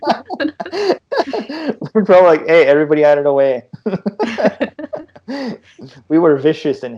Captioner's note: laughter